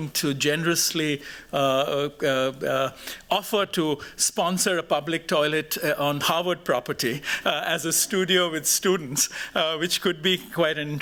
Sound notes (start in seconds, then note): none